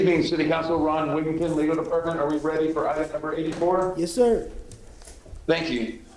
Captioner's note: off microphone